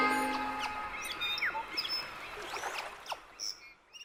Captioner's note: birds chirping